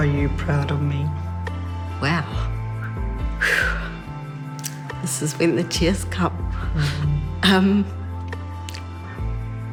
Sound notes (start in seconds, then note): 2.9 exhales sharply